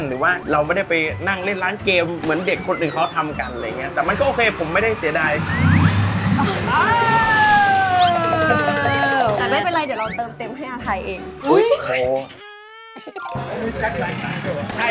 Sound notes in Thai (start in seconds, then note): 5.5 เสียงรถมอเตอร์ไซต์